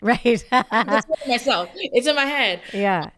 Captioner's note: laughs